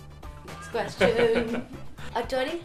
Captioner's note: laughs